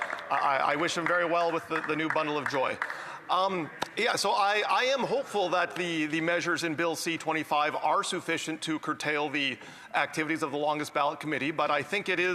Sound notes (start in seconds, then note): 3.5 some Applause